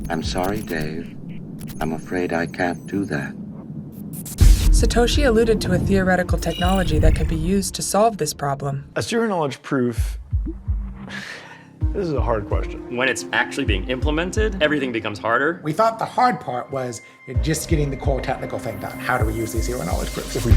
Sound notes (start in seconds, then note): 10.0 suspenseful music; 11.5 laughs